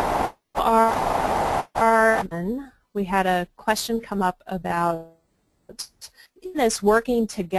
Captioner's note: static